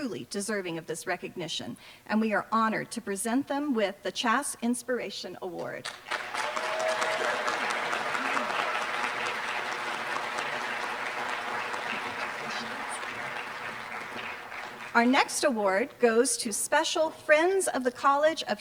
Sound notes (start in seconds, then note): 6.1 applause